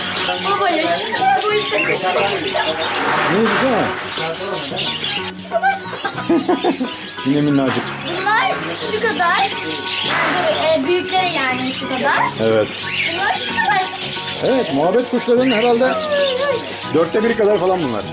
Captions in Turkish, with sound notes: Baba şuna bak! Bu boyutta kuş mu olur? Boyutu şu kadar küçük. (Gülüşmeler) Evet çok küçük. Bu kuşların boyutu ise şu kadar. Yani bu kuşlar biraz daha büyük. Evet. Bunlar çok küçük. Evet. Sanırım bu kuşlar muhabbet kuşlarının dörtte biri kadar boyutta.